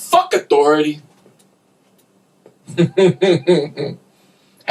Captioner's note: laughter